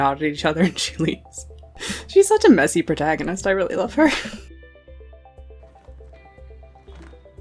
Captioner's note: laughs